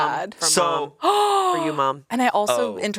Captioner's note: Anna gasps